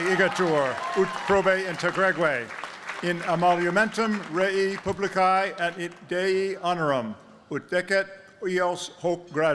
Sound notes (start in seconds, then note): 2.1 speaking latin